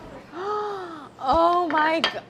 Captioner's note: gasps